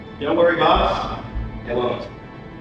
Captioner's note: none